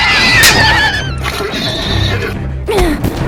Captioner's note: Iliya neighing; Vyxxen neighing; Iliya grunts